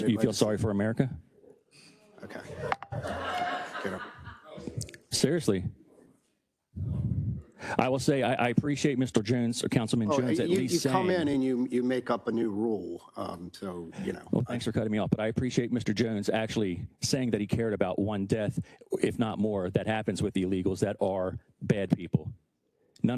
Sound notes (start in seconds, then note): 4.1 attendees laughing